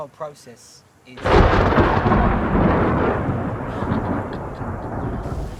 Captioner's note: thunder